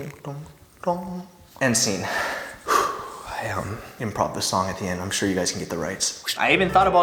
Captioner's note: breathes in, breathes out